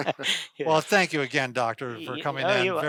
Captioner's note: laughs